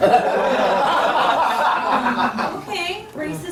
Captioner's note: laughter